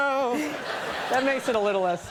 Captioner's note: audience laughs